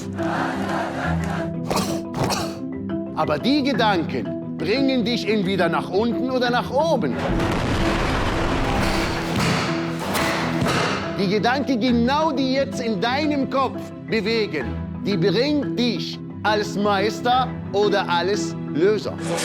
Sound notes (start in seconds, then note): 0.0 chanting; 7.3 explosion